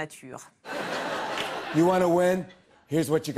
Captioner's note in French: rires